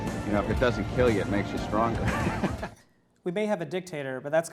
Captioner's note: laughs